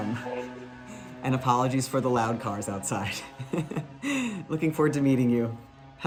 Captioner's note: laughing